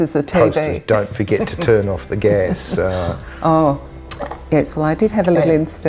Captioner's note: laughing